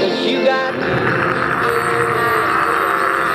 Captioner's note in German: schreit